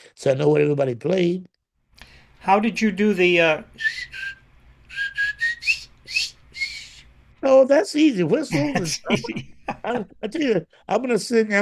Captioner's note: whistles